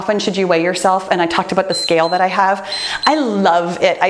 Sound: timer beeps

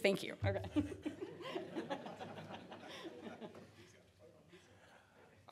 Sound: laughter

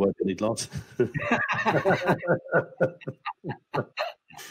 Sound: panel laughing

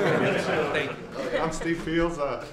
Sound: laughter

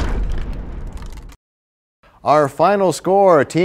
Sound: crashing sound

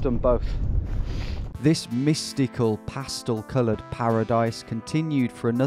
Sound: voiceover

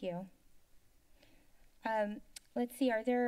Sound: silence

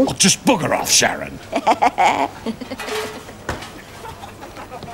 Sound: laughs

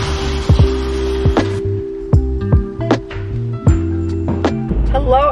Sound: shower water splashing

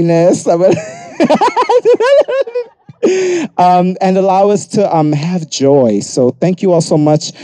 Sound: laughs

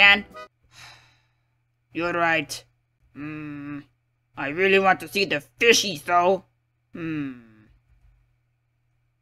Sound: sighs

